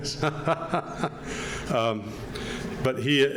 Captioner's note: laughs